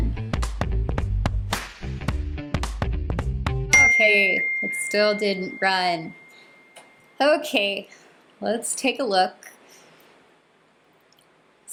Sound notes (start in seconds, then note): 0.2 upbeat music; 3.7 bell ding